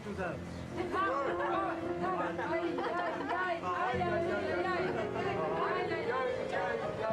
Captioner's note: all humming; all laughing